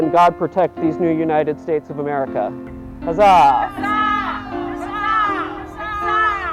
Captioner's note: cheering